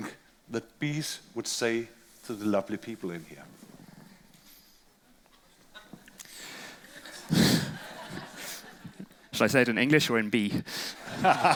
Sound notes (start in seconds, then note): 4.1 crowd laughs